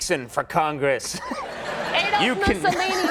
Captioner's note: audience laughing